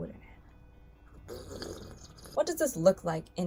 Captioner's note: slurping